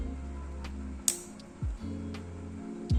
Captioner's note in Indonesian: Click